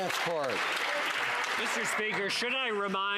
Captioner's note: some Applause